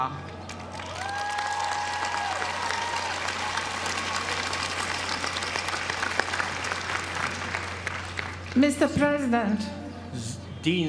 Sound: applause

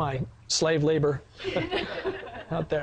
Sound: sound of laughing from audience

